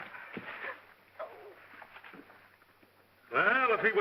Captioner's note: Ann whimpers